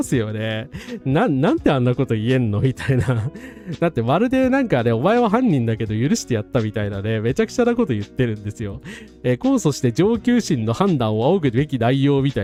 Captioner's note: laughs